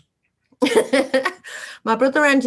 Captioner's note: laughs